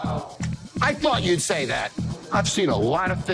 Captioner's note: claps